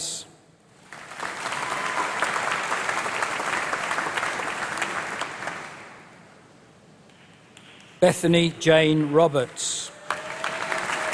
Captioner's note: applause